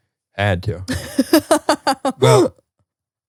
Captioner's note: laughs